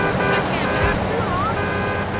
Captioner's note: car horn honking